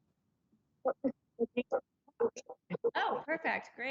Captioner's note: crackling